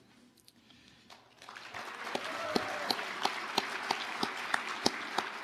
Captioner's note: audience applauding